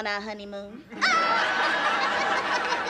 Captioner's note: laughing